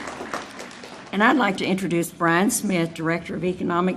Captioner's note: audience applauding